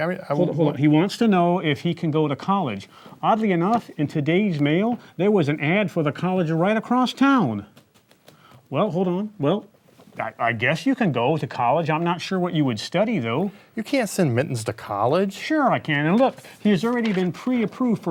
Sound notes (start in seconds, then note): none